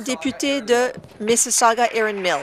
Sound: applause

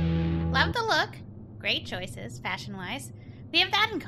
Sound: conspicuous humming

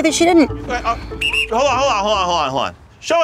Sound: whistle

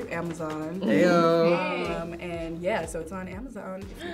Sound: group cheers

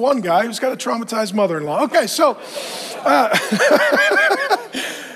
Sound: laughs

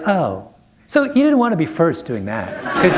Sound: laughter

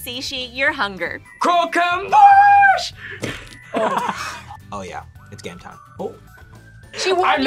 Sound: laughs

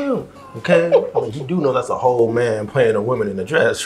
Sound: Rachel laughs

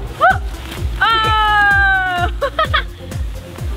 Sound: laughs

